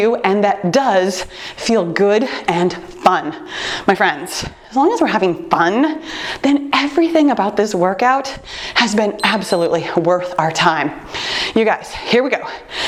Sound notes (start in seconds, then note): 9.1 timer beeps